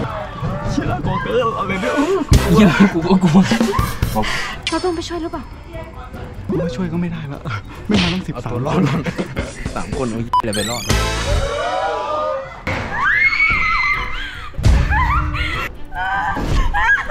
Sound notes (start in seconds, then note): 12.9 screams